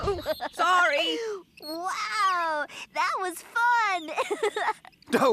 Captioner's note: giggling